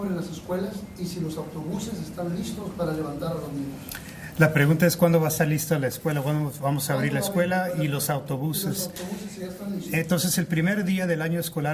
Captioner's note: spanish